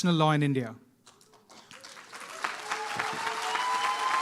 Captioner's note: applause